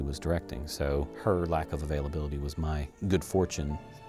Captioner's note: none